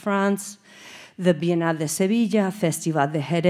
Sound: speaking Spanish

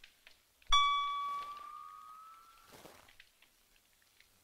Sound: tone warbles

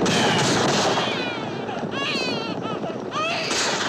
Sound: baby crying

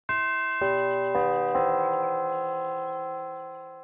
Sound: bells chime

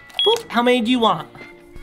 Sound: scanner beeping

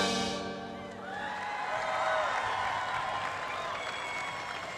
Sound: cheering and applause

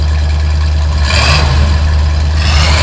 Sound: engine revs

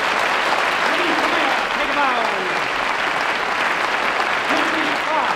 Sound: applause

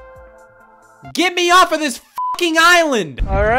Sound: beeping

